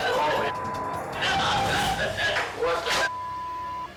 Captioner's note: mom wailing